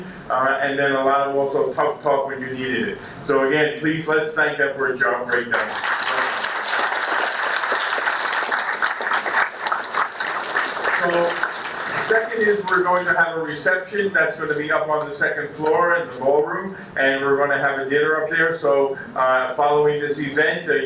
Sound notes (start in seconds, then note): 5.4 applause